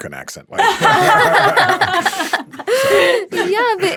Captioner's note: panelist laughing